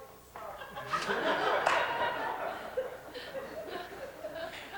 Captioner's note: laughter